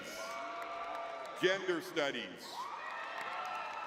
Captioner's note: audience cheering; audience cheering